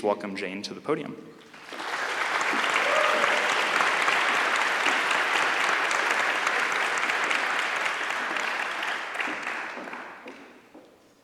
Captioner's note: applause